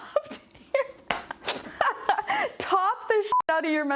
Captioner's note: laughing